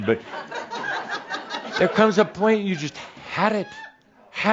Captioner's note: more chuckles